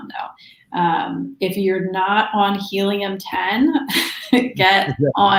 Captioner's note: laughs